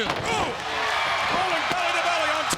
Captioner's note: crowd cheering; body thudding; presenter speaking faintly off mic